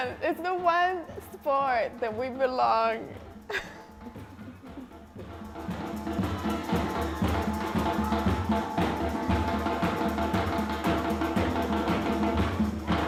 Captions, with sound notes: It's the one sport that we belong. (laughs) (rhythmic drum music)